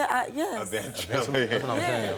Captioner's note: chuckles